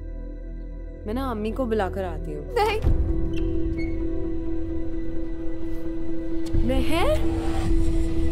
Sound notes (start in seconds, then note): 3.3 Door opens